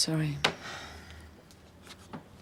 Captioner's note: sighs